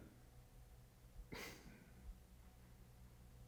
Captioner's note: exhales